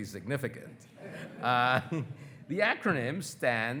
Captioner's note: everyone laughing